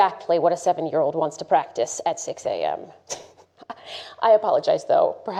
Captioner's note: laughs softly